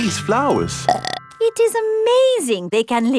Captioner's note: burps